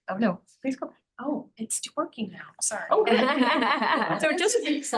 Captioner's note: laughing